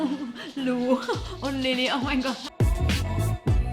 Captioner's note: laughs